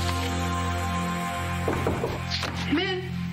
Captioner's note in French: knock at door